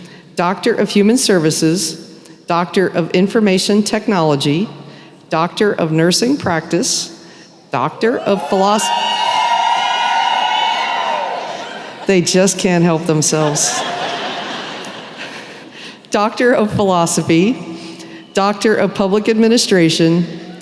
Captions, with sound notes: Doctor of Human Services, Doctor of Information Technology, Doctor of Nursing Practice... [cheering] They just can't help themselves. [laughter] Doctor of Philosophy, Doctor of Public Administration,